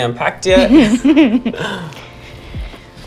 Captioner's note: both giggle